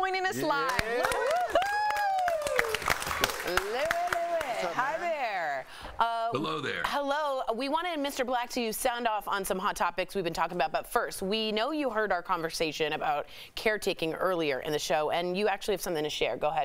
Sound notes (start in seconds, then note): 0.2 laughter; 5.3 applause